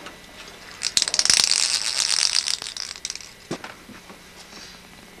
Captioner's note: rattle noises